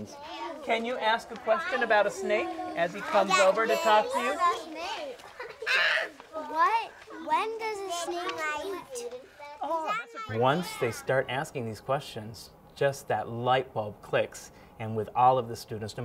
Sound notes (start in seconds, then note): 4.5 children laughing